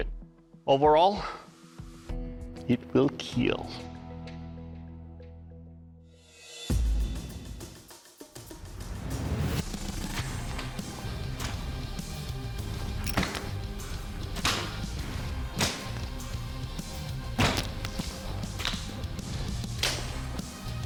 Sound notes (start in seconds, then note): 12.4 chopping sound